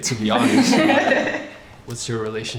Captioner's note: everyone laughing